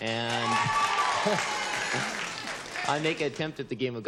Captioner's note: cheering